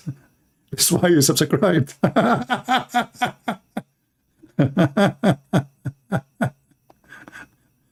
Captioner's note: Ketawa